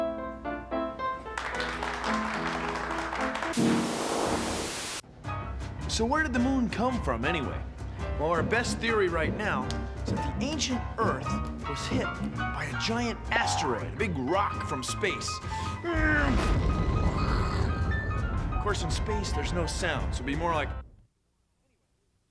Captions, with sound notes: ( applause ) WHERE DID THE MOON COME FROM, ANYWAY? OUR BEST THEORY RIGHT NOW IS THAT ANCIENT EARTH WAS HIT BY A GIANT ASTEROID-- A BIG ROCK FROM SPACE. ( imitating explosion ) IN SPACE, THERE'S NO SOUND, SO IT WOULD BE MORE LIKE--